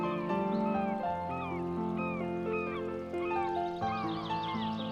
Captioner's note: birds shrieking